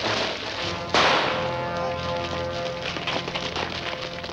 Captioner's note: firecracker pops